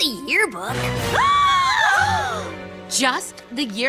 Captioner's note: all gasp